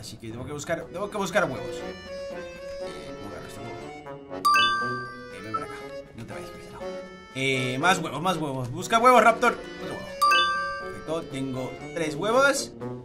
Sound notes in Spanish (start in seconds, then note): 3.2 Susurra